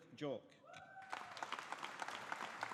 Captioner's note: audience applauding